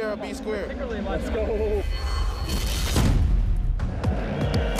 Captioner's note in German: Gespannte Klänge, dumpfer Laut; Angespannte Musik